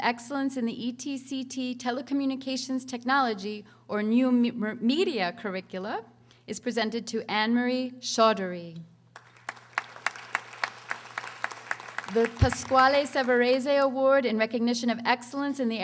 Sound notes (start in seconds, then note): 9.1 audience applauding